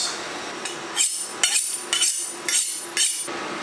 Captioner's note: knife honing sounds